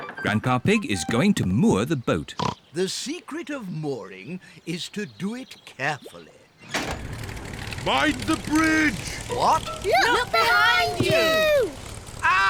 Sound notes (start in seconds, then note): 2.3 oinks